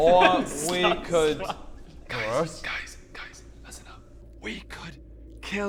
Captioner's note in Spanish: Susurra